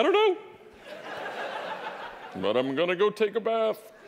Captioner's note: audience laughing